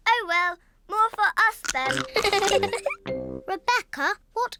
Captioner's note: giggles